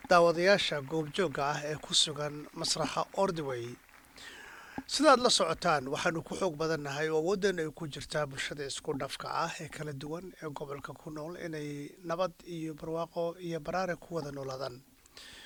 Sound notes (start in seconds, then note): 6.1 applause